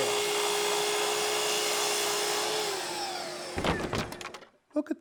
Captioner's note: saw buzzing